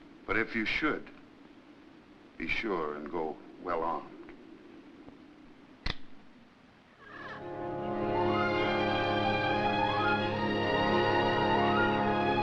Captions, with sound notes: But if you should, be sure to go well armed. (gun clicks) (birds cawing) (soft listening music)